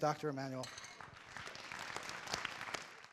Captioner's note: applauding